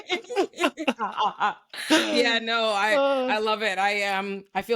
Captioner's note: laughing